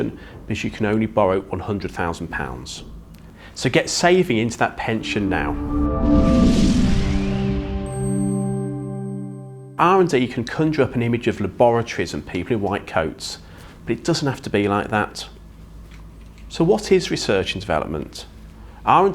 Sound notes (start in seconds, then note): 4.8 gentle music; 4.9 graphics whooshing